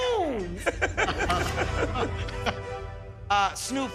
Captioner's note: laughter